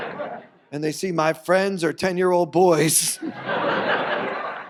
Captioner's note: audience laughs; audience laughs